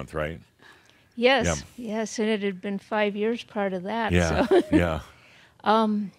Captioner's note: she chuckles again